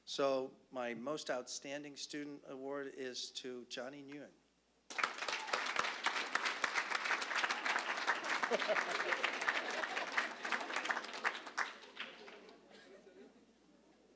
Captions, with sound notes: SO MY MOST OUTSTANDING STUDENT AWARD IS TO JOHNNY NGUYEN. (applause) (audience laughing)